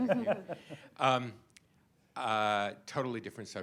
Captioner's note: laughter